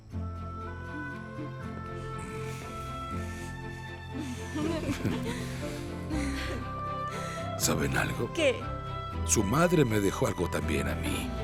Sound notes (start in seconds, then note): 0.1 Música inspiracional; 4.1 Todos ríen